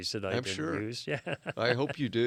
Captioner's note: laughs